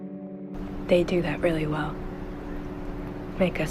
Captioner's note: voiceover